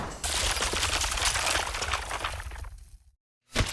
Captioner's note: rock crumbles